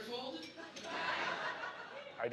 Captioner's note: laughing